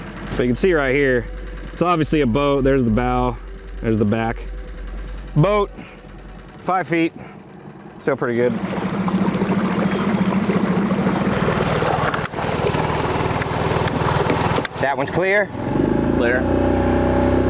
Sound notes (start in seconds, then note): 11.7 boat engine sputtering